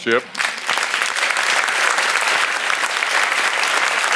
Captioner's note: audience applauds